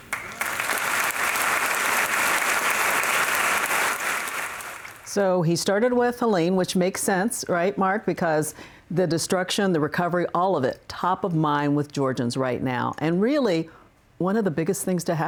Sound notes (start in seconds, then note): 3.3 applause